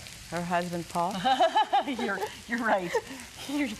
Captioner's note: laughs